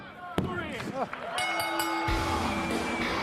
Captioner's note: bell ringing